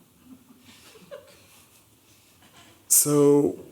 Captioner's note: chuckling